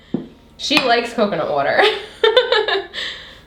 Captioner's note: chuckles